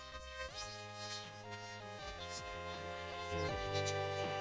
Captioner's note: townspeople whispering